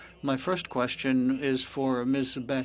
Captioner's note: speaking french